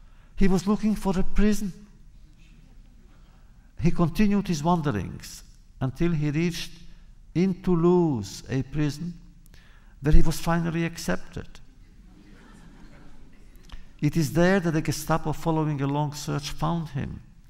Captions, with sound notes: He was looking for a prison. He continued his wanderings until he reached in Toulouse a prison where he was finally accepted. (laughter) It is there that the Gestapo, following a long search, found him.